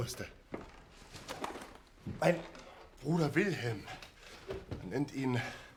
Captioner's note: Schritte nähern sich